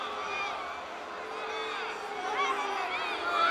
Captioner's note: crowd booing